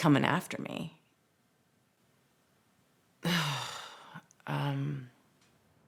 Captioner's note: sighs